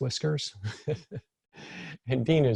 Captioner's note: laughs